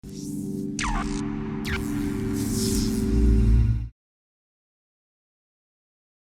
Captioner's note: dramatic tone and laser sounds